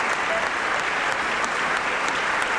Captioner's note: applause